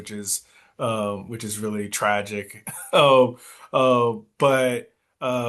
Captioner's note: coughs